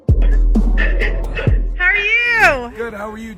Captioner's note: laughs